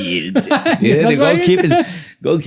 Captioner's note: laughing